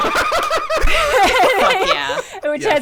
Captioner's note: laughing